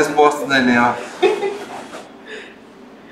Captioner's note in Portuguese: risos